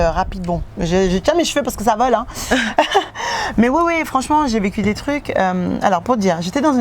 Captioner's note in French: rires